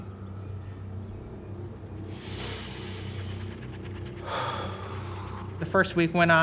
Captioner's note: breathes deeply